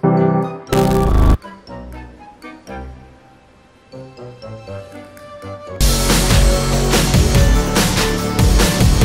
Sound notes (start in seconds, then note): 0.7 electric zapping; 5.8 loud upbeat music